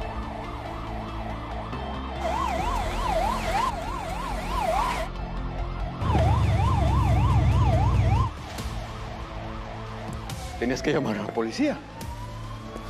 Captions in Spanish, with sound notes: [Sirenas] - ¿Tenías que llamar a la policía?